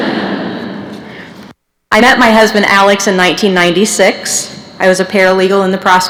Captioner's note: laughter